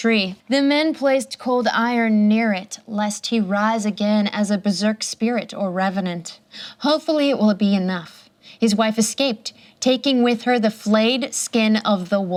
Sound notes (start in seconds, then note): none